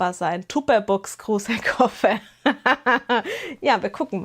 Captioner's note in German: gelächter